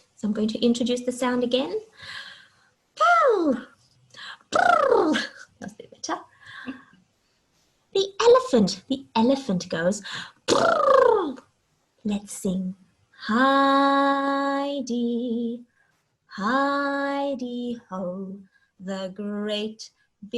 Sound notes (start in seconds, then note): 4.4 mimicking elephant sound; 10.4 mimicking elephant sound